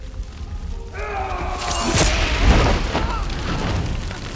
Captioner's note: yelling